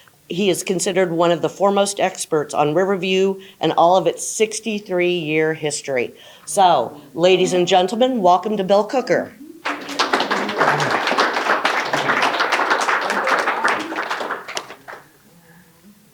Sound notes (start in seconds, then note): 9.6 audience applauding